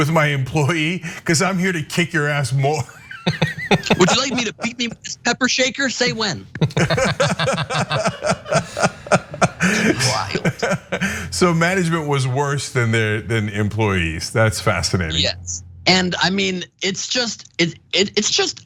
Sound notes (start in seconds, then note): 2.5 laugh; 7.4 laugh